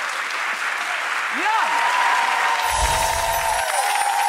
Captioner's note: audience cheering